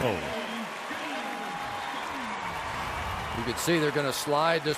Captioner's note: cheering